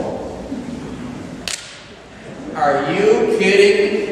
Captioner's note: slaps podium